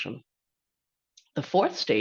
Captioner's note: pause